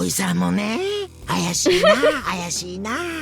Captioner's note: chuckles